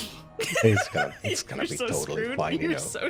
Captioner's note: laughs